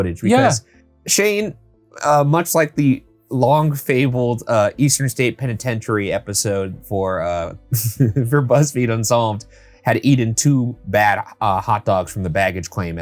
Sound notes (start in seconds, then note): 7.7 chuckles